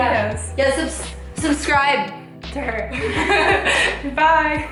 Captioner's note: both laugh